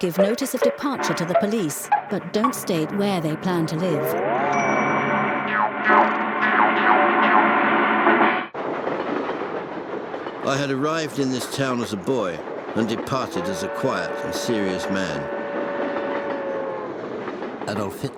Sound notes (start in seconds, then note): 4.5 bell dings; 9.0 train clattering; 15.4 train chugging